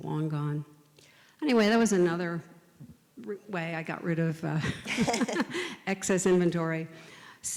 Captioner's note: laughs